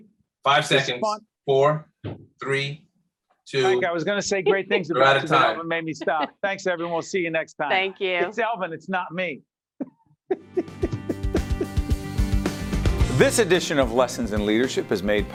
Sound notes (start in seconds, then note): 10.3 laughing